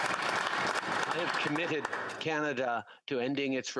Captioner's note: applause